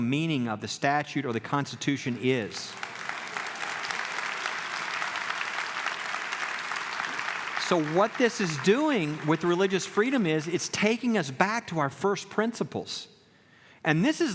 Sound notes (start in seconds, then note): 2.0 clapping